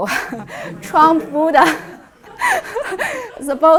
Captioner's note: all laughs